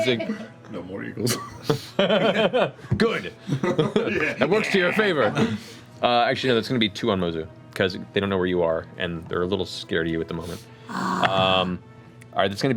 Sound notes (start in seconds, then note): 3.5 laughs